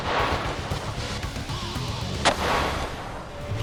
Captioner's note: gun bangs